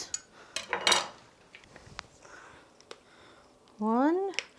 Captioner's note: metal clanging